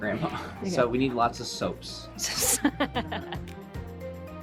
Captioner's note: laughing; upbeat music continues